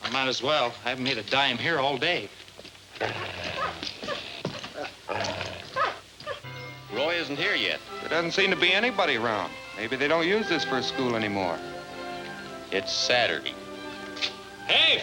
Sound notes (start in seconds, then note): 3.0 dogs growling and whining